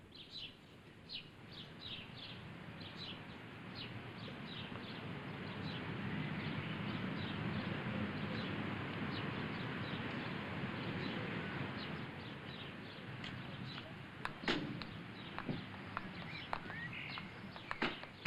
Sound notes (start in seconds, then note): 0.0 birds chirping; 1.8 car rumbling; 14.2 footsteps